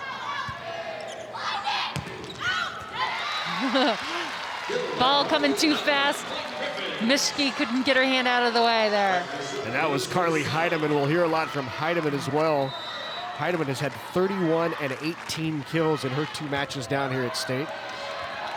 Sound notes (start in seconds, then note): 0.2 players shouting indistinctly; 1.9 ball thumping; 3.4 chuckles; 3.4 audience cheering